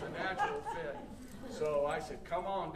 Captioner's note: audience laughing